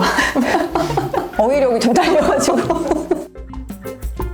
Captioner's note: laughing